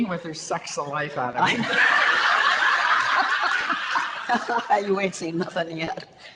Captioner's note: audience laughter